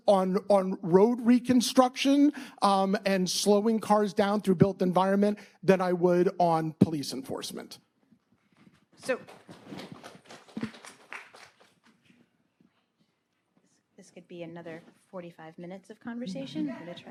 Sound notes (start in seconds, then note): 9.1 audience clapping